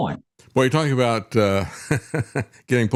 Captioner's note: laughs